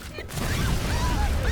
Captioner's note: screaming